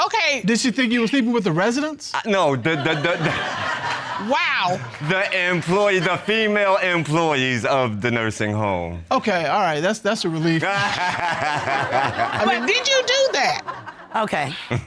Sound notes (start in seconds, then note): 2.6 audience laughing; 3.2 laughs; 10.6 laughing